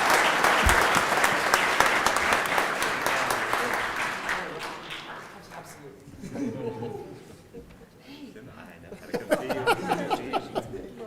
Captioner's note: cheering and Applause